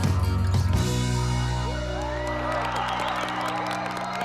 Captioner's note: applause